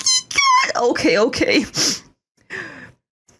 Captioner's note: sniffle